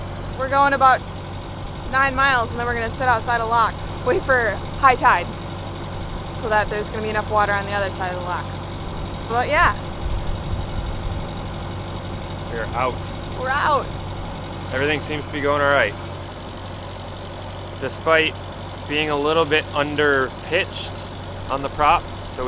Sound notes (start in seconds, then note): 11.4 boat engine roaring